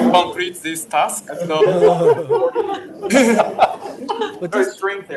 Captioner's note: audience laughs